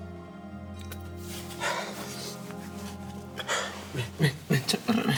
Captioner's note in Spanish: solloza